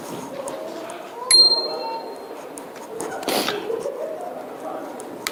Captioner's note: rings bell